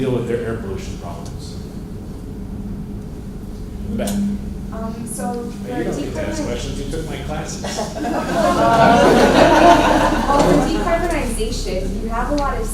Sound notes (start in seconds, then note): 7.4 laughter